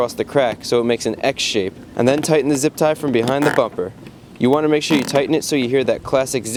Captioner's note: zip